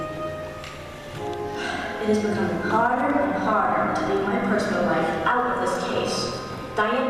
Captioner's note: sigh